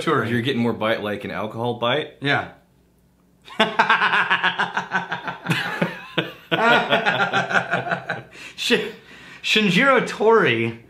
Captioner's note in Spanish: Riéndose